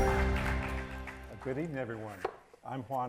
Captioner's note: audience applauds